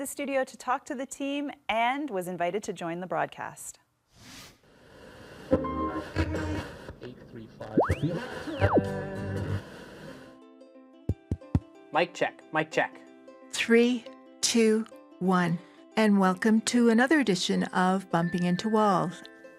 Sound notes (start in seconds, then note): 5.4 radio playing